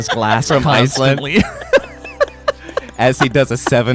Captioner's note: laughs